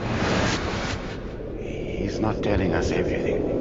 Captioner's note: Bertha's voice echoing; reverb warping